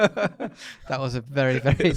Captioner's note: laughs